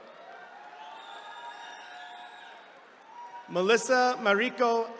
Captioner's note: attendees cheering